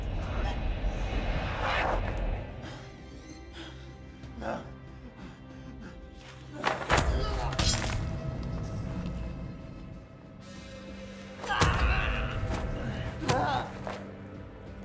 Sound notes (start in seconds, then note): 6.2 loud cracking; 13.1 Jeff grunting